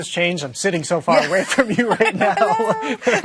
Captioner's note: laughing